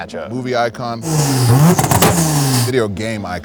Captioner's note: engine revving